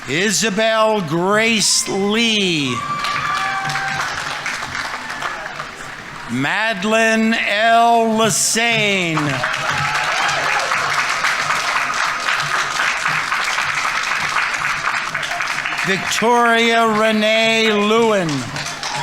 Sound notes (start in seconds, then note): 3.0 audience applauding; 3.0 audience members cheering; 9.4 audience applauding; 9.4 audience members cheering